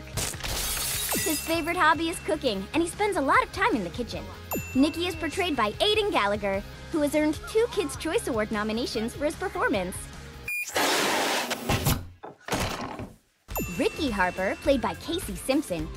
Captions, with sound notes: [crashing] His favorite hobby is cooking and he spends a lot of time in the kitchen. Nicky is portrayed by Aidan Gallagher who has earned two Kids Choice award nominations for his performance. [inflating] Ricky Harper, played by Casey Simpson,